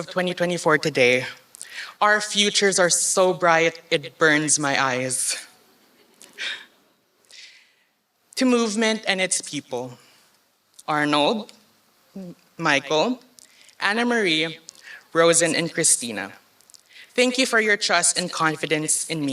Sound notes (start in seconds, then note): none